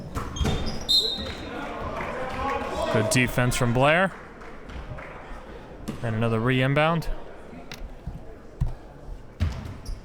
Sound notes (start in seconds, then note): 1.2 whistle blows